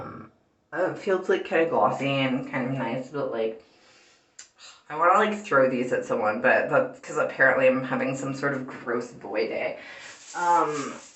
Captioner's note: clicks tongue